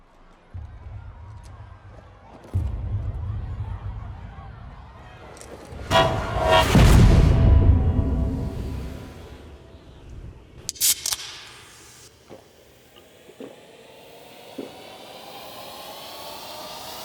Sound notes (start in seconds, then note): 0.2 people chanting; 5.9 zooming sound; 10.6 can opens